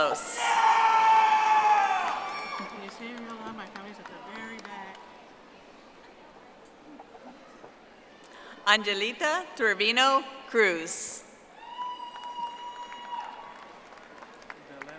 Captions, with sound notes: Alexa Lizette Avelos. (audience applauding) Angelita Trevino Cruz.